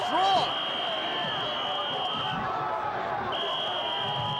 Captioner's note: whistle blowing